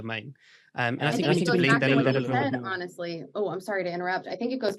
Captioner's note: murmuring